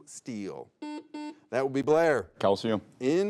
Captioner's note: buzzer beeps